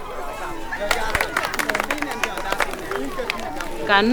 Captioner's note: clapping